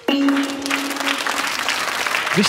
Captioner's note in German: Applaus